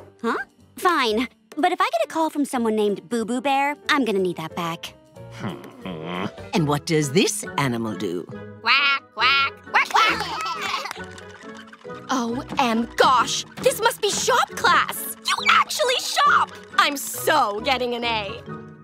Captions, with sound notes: Fine. But if I get a call from someone named Boo-Boo Bear, I'm gonna need that back. [grumbling] And what does this animal do? [quacking] [laughing] OM gosh. This must be shop class! You actually shop! I'm so getting an A.